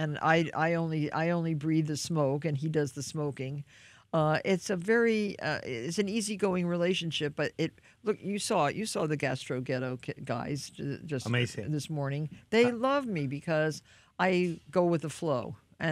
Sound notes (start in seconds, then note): none